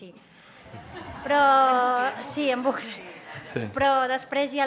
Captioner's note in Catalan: riures